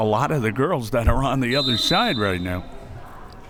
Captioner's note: whistle